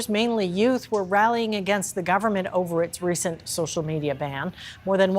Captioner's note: crowd noise